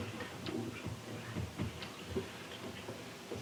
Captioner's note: Italian